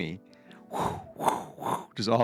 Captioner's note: exhaling